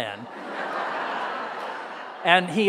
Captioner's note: audience roaring with laughter